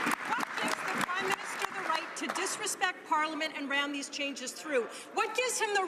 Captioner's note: some Applause